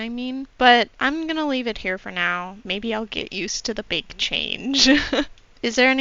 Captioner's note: laughter